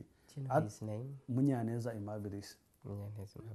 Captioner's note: non-english